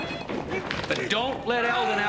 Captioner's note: Eldon grunts and screams